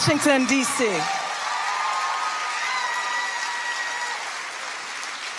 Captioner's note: audience applauding